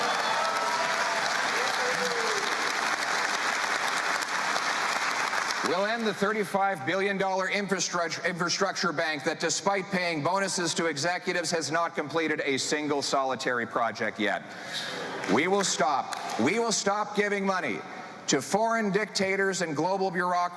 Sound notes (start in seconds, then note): 4.8 cheering